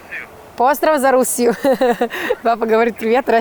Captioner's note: speaks Serbian